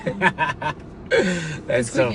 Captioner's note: both laughing